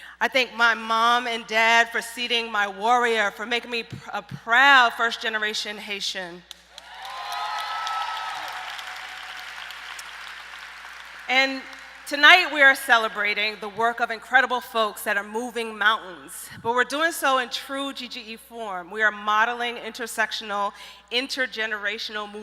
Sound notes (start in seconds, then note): 6.5 applauding